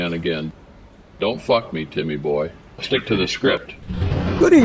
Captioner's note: voice becomes demonic